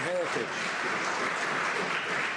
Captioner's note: some Applause